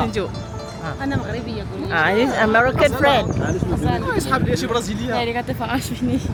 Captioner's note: speaking German; speaking Arabic